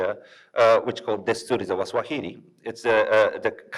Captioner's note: speaks in foreign language